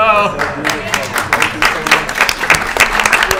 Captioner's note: applause